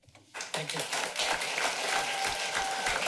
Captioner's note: applause